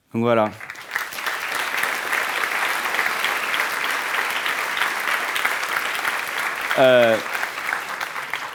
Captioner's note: applause